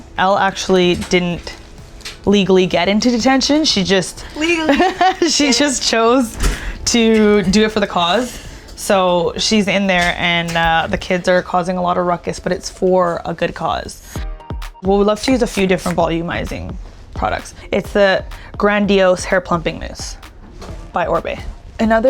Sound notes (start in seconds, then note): 4.2 laughing; 14.0 gentle chiming music